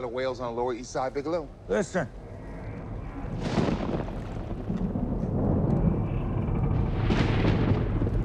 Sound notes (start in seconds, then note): 2.1 thunder rumbling; 2.3 ship creaking